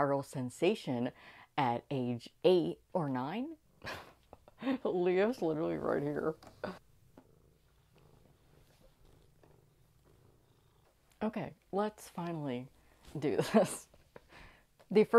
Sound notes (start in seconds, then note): 3.8 laughing